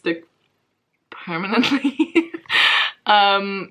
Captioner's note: laughs